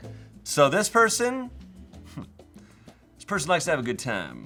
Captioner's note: chuckles